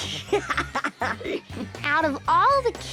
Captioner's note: chuckles